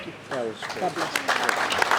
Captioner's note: applause